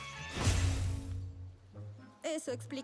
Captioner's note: zap